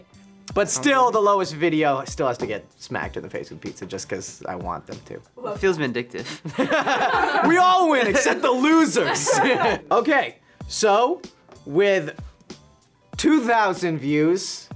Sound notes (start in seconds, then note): 6.3 all laughs